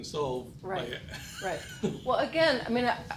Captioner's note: laughing